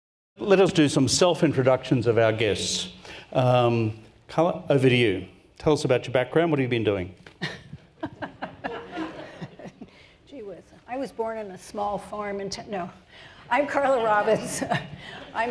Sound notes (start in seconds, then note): 7.4 laughs; 7.9 audience laughs